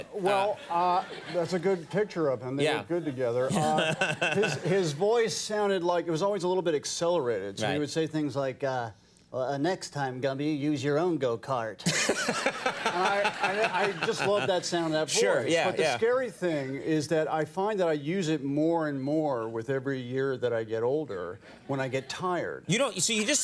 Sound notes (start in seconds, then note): 3.5 Conan laughing; 11.9 Conan and audience laughing